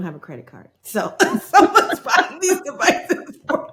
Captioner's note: both laughing